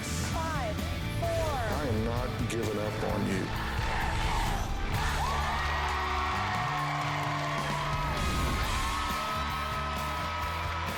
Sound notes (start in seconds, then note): 3.3 crowd chanting "dr. phil!"; 5.4 cheering and applause; 10.6 cheers and applause